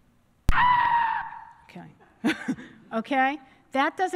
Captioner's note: scream